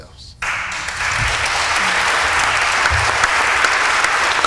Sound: applause

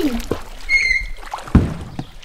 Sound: thud!

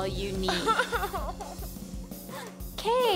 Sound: sobs

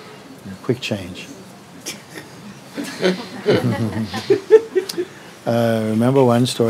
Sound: laughter

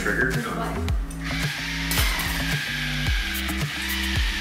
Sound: drilling

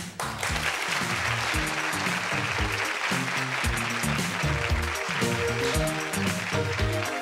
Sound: applause

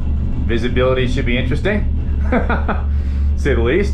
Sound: laughs

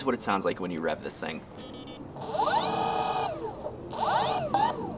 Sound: small motor revving

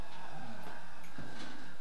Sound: sighs

